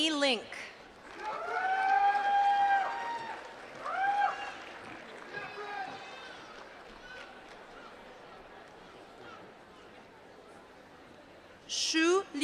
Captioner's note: applause